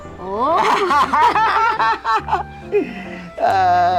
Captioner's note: both laughing